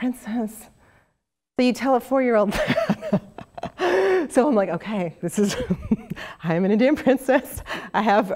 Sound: laugh

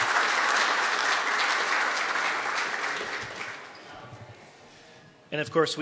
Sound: applause

